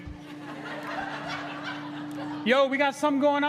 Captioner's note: crowd laughing